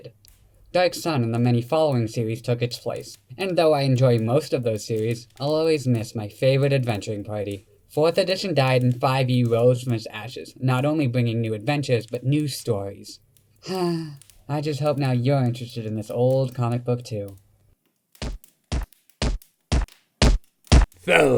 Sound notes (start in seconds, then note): 13.6 sigh; 18.2 stomping approaches